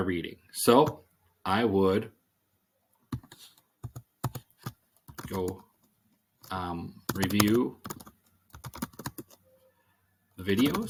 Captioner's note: typing